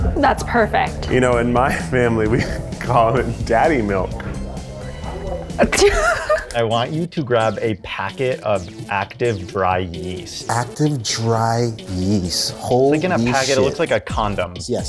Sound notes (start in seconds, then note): 5.6 laughs